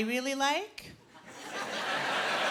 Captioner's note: laughter